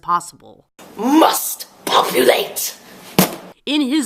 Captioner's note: evil voice